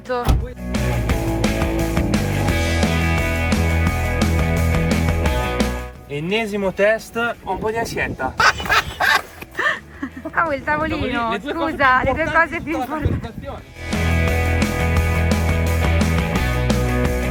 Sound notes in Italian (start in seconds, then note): 8.3 risate